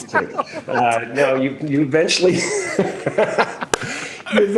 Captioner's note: both laugh